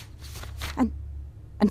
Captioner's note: drawers, filing cabinet, opening. pages flipping